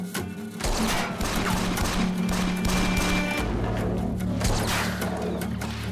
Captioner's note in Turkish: Çatışma sesleri